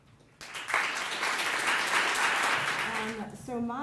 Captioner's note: audience applauding